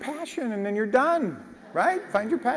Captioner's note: laugh